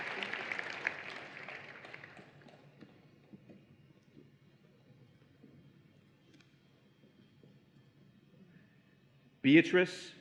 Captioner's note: applause and Cheering